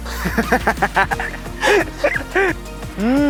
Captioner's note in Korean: 꺄르륵꺄르륵